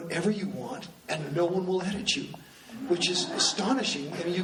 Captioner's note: laughing